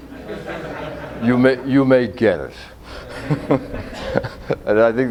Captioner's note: audience laughter